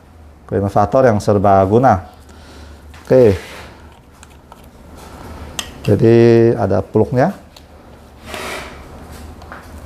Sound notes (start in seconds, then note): 5.1 bottle cap noise